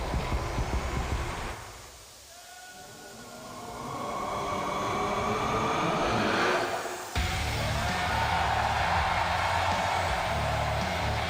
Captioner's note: cheers and applause